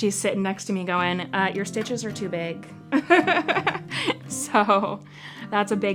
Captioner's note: chuckling